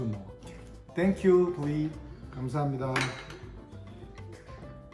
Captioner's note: speaks Korean; upbeat music